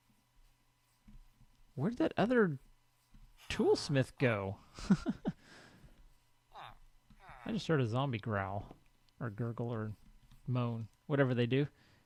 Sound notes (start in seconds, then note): 6.8 zombie growls